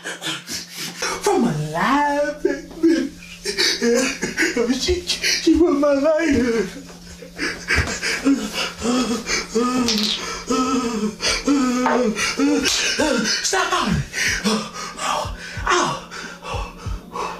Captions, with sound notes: from Aligned Faith Mini... (Jacobs whimpers) She... she ruined my life. (Crying continues) (Slap) Snap out of it! Ouch